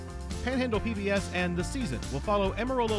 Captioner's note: voiceover